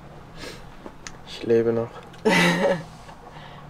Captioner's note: laughs